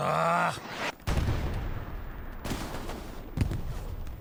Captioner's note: gunshots